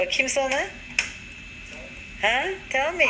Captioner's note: Turkish